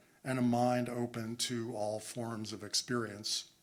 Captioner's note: none